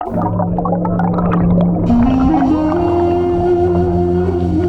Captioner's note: bubbles; cinematic music